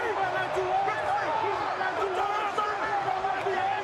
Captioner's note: players shouting in celebration